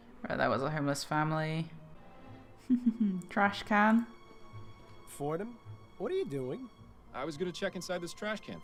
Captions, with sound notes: Alright, that was a homeless family. *chuckles* trashcan